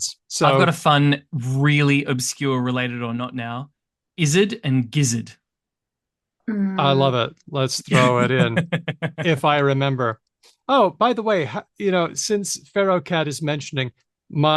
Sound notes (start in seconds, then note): 7.9 laughs